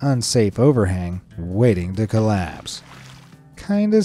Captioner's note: water splashing